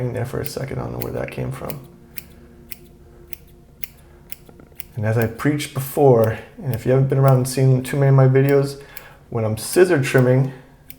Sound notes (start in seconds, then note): 2.7 scissors snipping